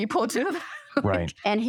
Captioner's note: laughter